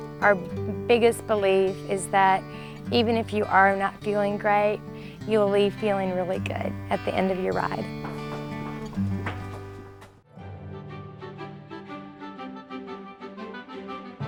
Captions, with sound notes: Our biggest belief is that, even if you are not feeling great, you'll leave feeling really good at the end of your ride. (horse clopping) (delightful music)